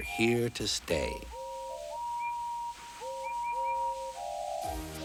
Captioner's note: tooting, whistling